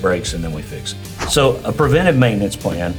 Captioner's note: screen whooshing